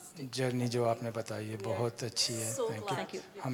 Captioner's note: speaks foreign language